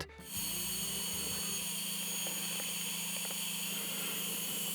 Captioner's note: electric snorer vibrating